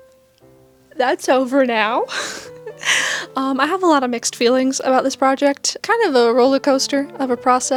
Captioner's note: laugh